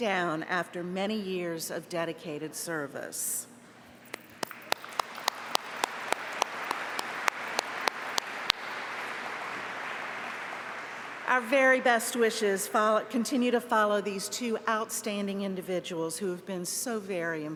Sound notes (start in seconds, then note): 9.7 applause